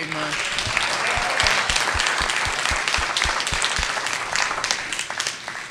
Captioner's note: participants applauding